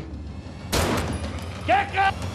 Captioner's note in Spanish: Disparo